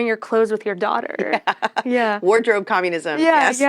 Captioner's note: laughs